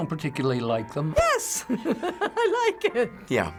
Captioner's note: laughs